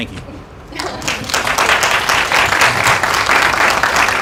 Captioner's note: applause